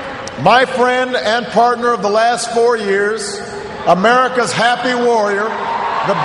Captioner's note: cheers, applause